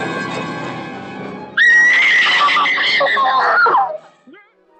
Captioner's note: screaming